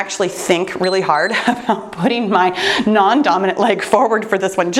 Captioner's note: timer beeps